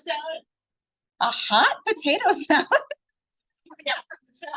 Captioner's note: laughs